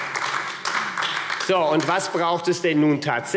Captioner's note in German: Beifall AfD - Zurufe Freie Demokraten